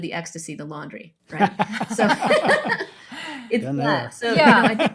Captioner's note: laugh